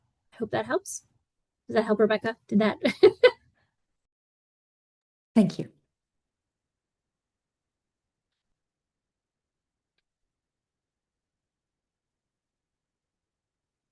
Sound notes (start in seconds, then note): 2.8 laughter